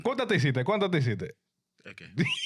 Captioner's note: speaking In Foreign Language